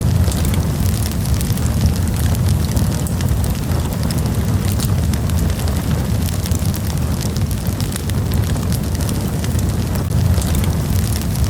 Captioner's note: relaxing fireplace sounds